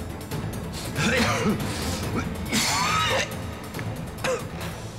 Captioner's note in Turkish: Öksürme sesi